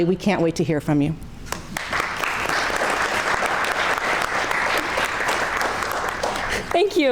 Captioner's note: crowd clapping